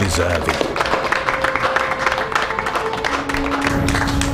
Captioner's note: applauding